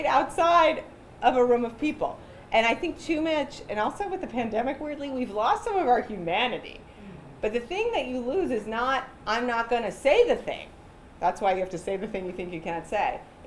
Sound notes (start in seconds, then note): none